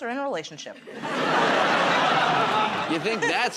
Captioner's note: laughter